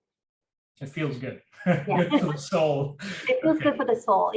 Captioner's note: laughs